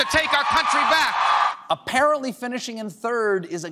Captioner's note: cheers and applause